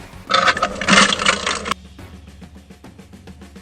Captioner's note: grinding